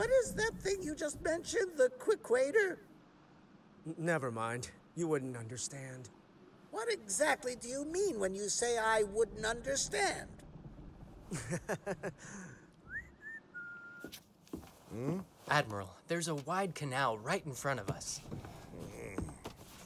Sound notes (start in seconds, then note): 11.3 he chuckles; 12.8 he whistles